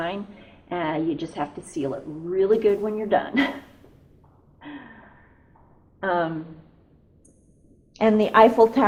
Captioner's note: laughs